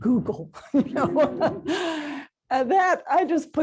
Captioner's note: laughter